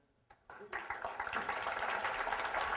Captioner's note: applause